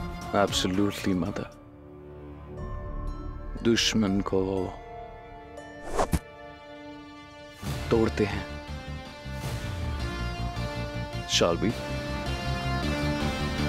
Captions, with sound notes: Absolutely, mother. We break [hitting dart] our enemies. Shall we?